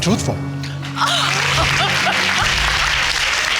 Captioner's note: gasps